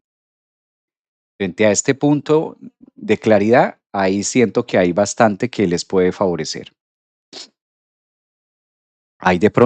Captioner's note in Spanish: resoplido